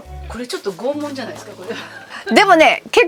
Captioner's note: laughter